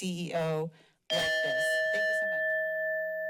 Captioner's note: bell dings